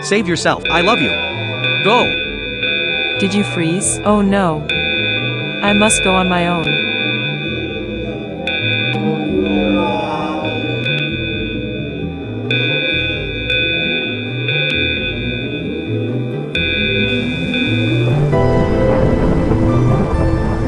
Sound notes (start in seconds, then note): 8.8 alarms Buzzing Rhythmically; 9.3 monster Yelling; 10.8 music intensifies; 16.8 lightning Strikes